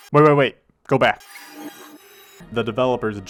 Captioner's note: more rat noises